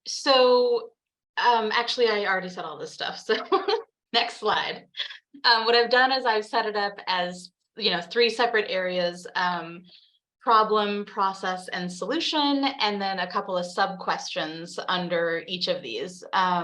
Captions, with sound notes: So actually, I already said all this stuff, so (laughs) next slide. What I've done is I've set it up as, you know, three separate areas, problem, process, and solution. And then a couple of sub-questions under each of these.